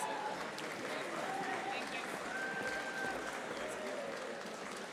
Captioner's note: audience applauding